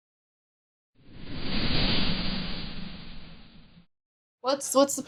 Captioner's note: sound Effects